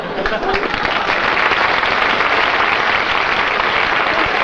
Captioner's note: applause